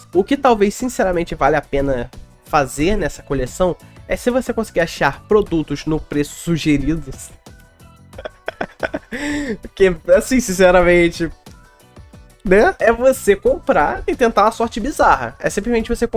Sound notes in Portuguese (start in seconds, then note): 8.2 risos